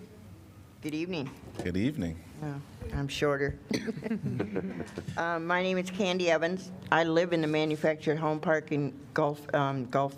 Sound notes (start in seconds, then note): 3.7 laughter